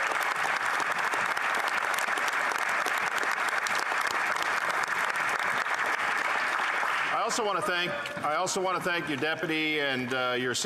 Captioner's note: applause